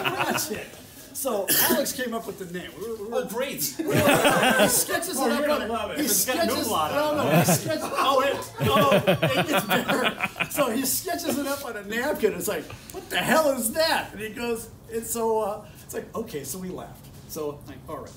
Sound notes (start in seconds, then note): 0.0 laughter; 3.4 lots of laughter and cross talk